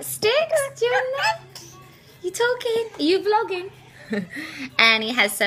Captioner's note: baby coos